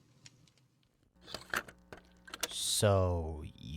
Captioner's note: disc inserts